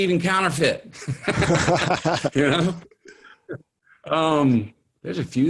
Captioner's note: both laugh